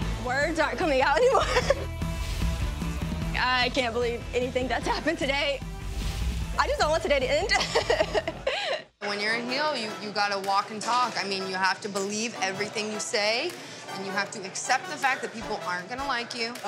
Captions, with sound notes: Words aren't coming out anymore! I can't believe anything that's happened today. I just don't want today to end! (chuckles) - When you're in Heel, you, you got to walk and talk. I mean, you have to believe everything you say, and you have to accept the fact that people aren't gonna like you.